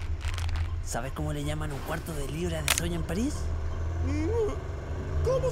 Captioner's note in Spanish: Muñeca dislocándose